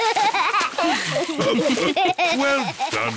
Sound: all laugh; laughs

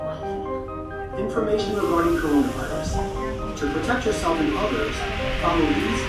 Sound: Subway announcement regarding Coronavirus

